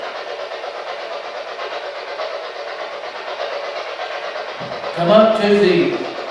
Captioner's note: white Noise